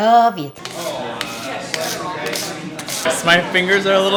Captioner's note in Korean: 사람들 대화하는 소리; 얼음 긁는 소리